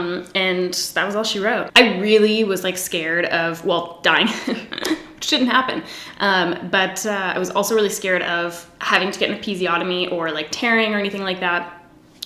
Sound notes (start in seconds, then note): 4.2 giggles